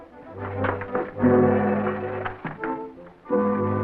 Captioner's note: metallic clanking; dramatic music